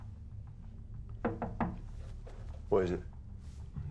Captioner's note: nicu taps on window